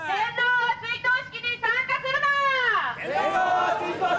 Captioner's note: shouting in Japanese; protestors shouting in Japanese